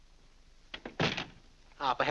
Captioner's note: door closes